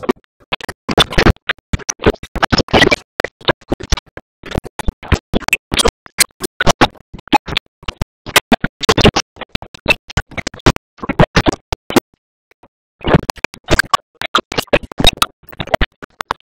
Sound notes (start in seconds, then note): none